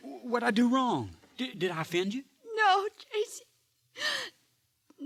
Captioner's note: none